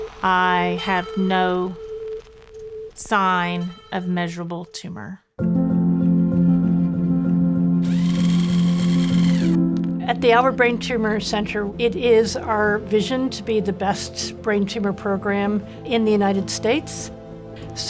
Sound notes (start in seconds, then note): 5.4 gentle music; 7.8 drill whirring; 7.9 gentle music